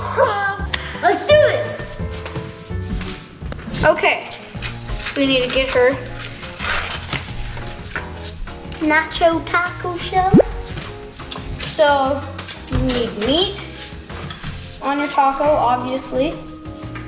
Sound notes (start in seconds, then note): 10.3 bloop noise